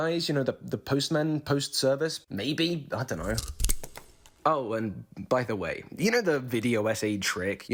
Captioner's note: snip